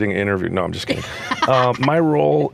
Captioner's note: laughs